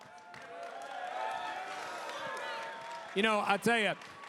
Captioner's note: crowd cheers